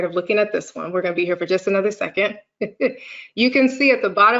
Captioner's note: laughs